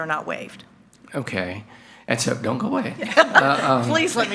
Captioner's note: chuckles